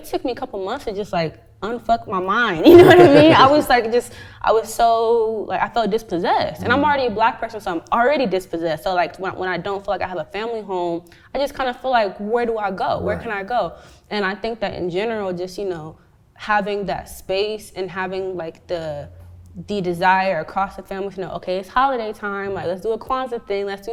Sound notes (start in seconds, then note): 2.6 laughs; 5.2 stammers